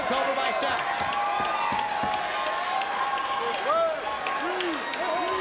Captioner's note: audience cheers and claps